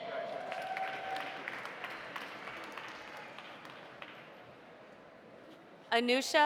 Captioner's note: audience cheering; audience applauding